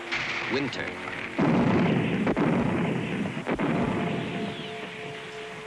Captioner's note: heavy artillery booming